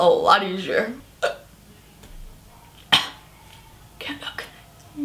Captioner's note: cough